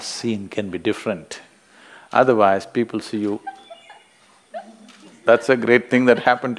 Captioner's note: A participant laughs